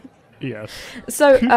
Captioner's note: chuckles